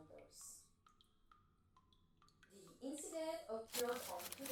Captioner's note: water dripping in background